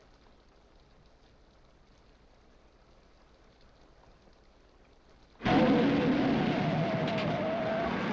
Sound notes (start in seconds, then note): 5.4 tires screeching